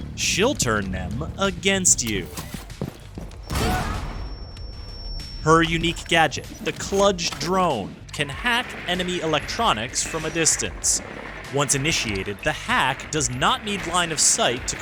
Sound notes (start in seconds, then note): 3.4 explosion